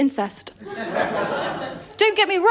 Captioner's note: laughter